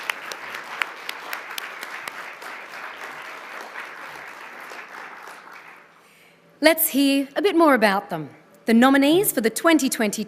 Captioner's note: applause